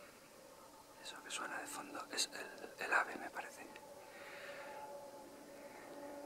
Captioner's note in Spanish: Susurrando